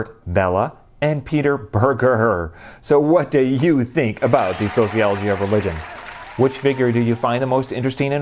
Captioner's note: applause